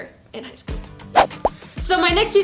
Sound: whooshes

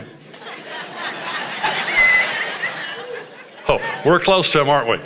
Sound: congregation laughing

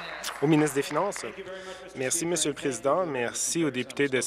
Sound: applause

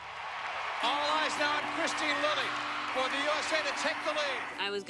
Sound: cheering

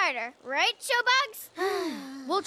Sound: exhale

